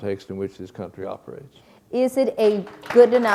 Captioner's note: applause